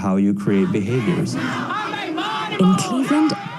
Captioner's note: crowd chanting loudly